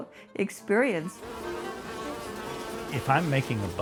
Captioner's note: bees buzzing